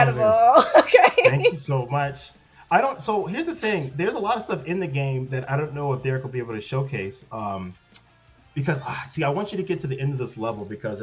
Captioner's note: laughter